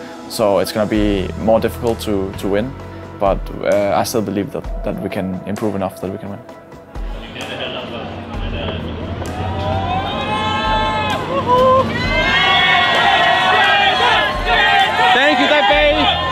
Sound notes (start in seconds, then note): 9.3 crowd cheering; 12.2 crowd chanting 'g2'